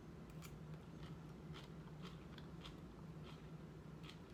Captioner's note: chewing